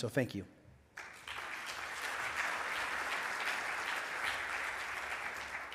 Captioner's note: audience applauds